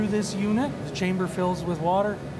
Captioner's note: none